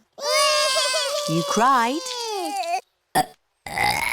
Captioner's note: both bawling; both burping